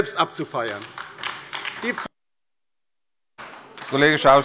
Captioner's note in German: Beifall bei der LINKEN